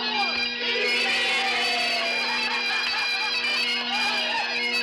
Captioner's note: men whooping